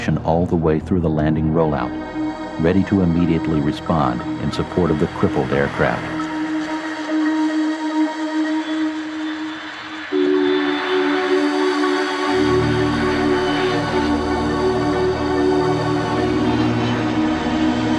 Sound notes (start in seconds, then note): 7.9 airplane roaring; 7.9 tense music continues